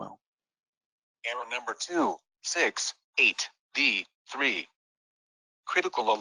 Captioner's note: voiceover